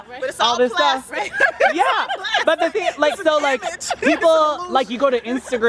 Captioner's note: laughter